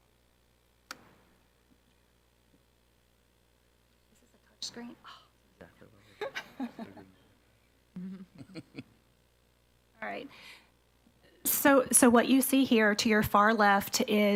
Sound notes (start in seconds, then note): 6.2 laughs; 8.0 board member laughs